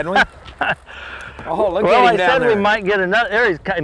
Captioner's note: laughter